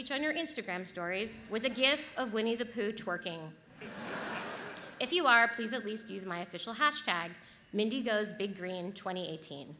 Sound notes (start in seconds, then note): 3.7 audience laughs